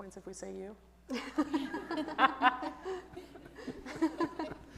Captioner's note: audience laughs